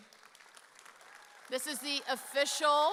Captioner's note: audience cheers